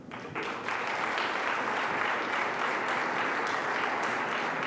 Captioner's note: audience applauds